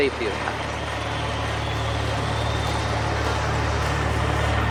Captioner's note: crowd sounds